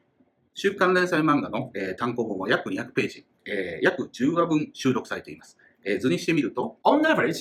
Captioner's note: speaking Japanese